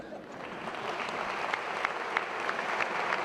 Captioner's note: applause